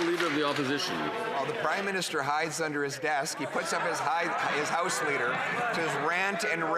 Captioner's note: some Applause